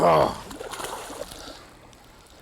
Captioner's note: splash